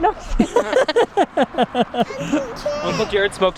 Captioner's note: laughing